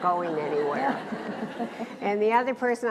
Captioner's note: laughs